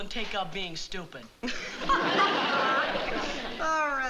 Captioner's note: laughs